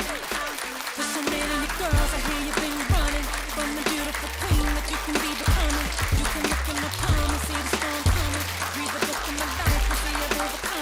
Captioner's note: applause